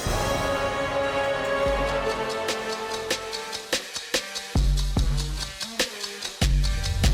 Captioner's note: Queen Serpentine hisses; wind whirring as crow wings flap